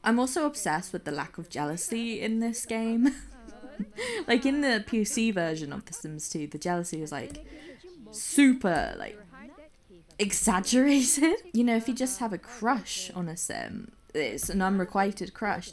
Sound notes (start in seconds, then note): 2.7 laughs